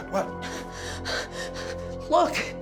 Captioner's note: gasps